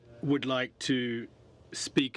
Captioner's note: speaking French